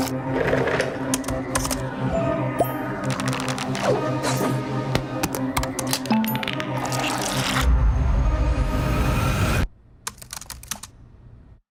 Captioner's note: typing